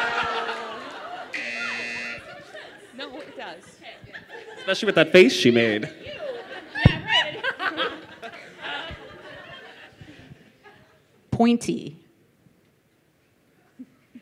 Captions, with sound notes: (buzzer) - That doesn't make sense. - No, it does. - Especially with that face she made. - Pointy.